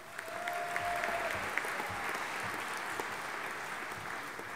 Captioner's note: audience applauding